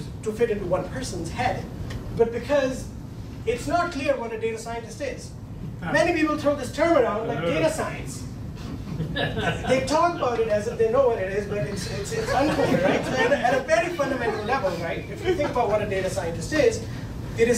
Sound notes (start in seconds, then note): 8.6 laughing